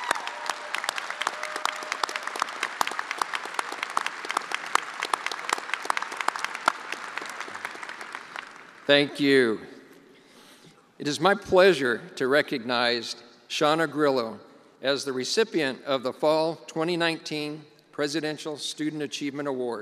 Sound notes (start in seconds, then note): 0.0 attendees applauding